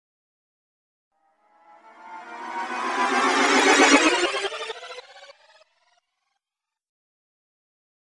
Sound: sound of magic rewind

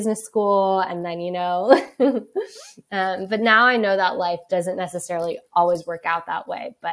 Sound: laughs

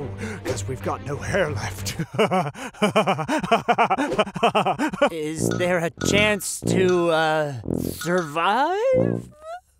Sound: nervous laughter

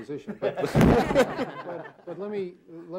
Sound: all laughing

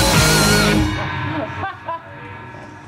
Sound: laughing

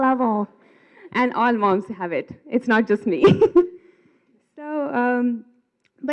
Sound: laughs

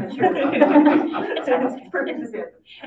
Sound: audience laughing

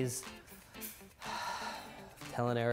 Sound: sigh

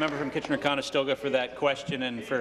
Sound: applause

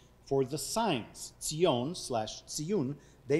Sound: speaking foreign language

